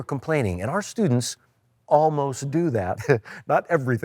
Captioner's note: chuckles